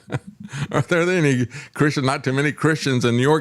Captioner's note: laughs